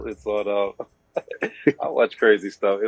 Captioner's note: laughing